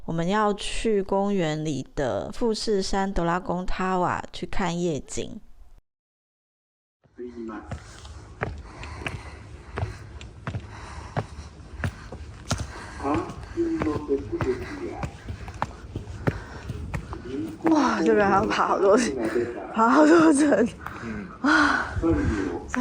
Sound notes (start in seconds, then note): 9.4 in poor physical condition, panting heavily